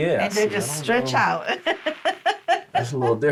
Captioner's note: laughs